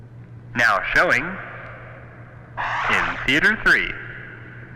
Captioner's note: man On PA